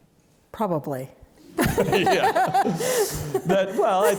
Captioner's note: laughs